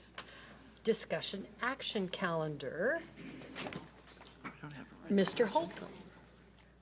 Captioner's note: speaks off mic